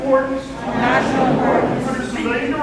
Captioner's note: crowd